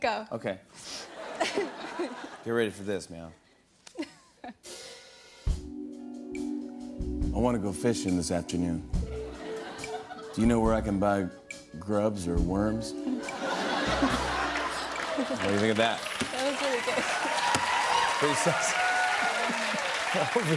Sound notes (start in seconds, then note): 13.2 laughter; 19.2 cheers and applause